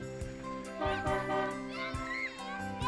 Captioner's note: horn honking